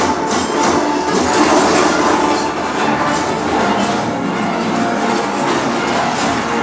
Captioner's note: energetic dramatic music; metal crashing